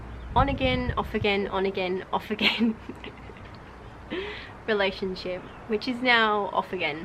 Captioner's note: laughing